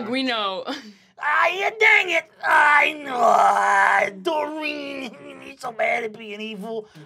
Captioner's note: grumbling